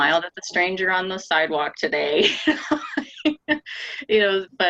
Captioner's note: laughing